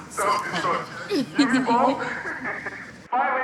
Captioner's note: laughs